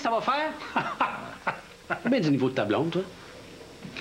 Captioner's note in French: Rire